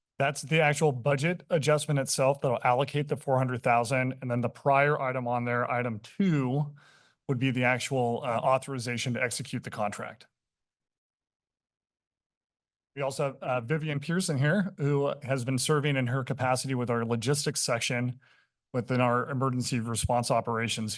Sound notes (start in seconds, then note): 10.2 pause